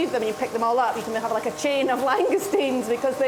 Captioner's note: laughing